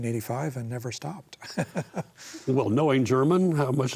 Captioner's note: chuckles